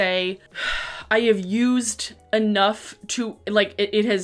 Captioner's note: sigh